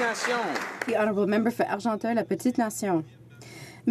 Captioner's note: applause